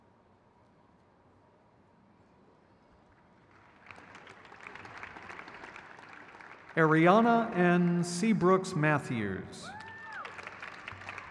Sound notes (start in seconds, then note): 3.8 crowd cheers